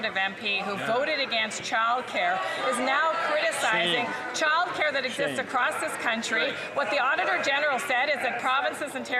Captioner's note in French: voix de l'interprète